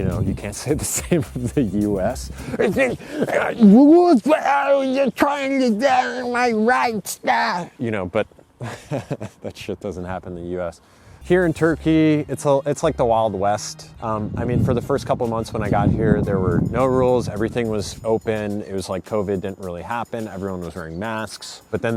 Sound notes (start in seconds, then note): 2.6 grunting and growling